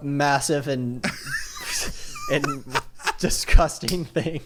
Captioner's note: laughs